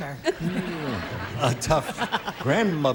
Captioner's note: laughter